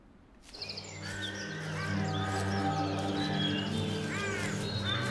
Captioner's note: birds chirping